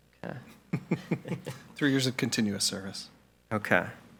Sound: laughs

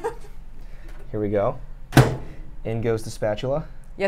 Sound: laughs; microwave bangs

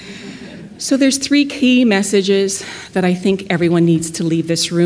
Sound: laughter

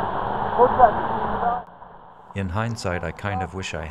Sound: calling out

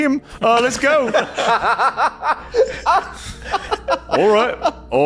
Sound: laughing

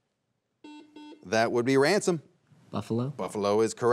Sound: buzzer beeps twice

